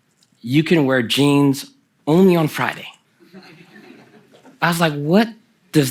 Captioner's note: laughter from the audience